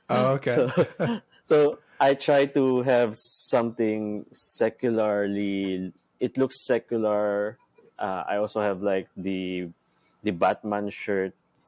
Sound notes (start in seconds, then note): 0.3 both chuckling